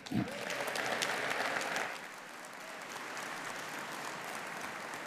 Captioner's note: audience applauding